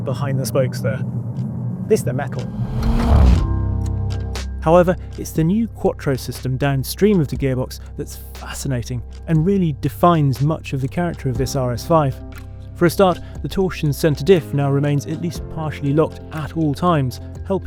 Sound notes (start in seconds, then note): 1.9 vehicle revs